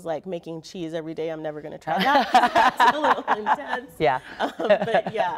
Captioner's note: laughter